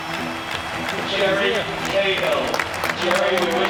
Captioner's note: clapping